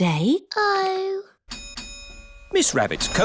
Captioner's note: coach bell dings